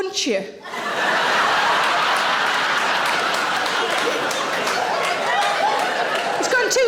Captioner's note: audience laughing; audience applauding